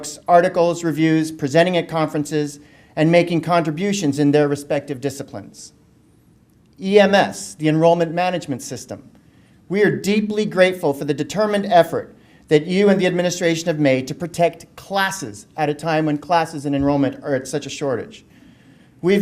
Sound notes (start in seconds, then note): none